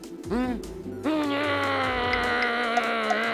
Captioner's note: grumbles